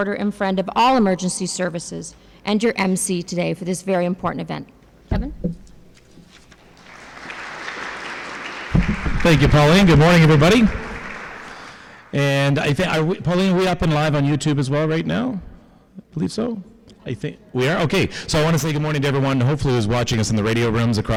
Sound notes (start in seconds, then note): 6.7 applause